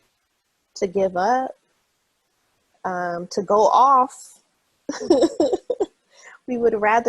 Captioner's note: laughs